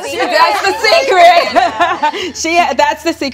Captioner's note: laughs